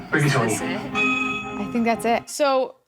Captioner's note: bell dings